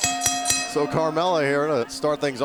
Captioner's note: laughing